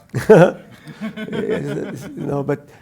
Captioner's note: laugh